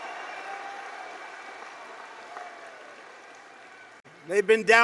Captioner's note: applause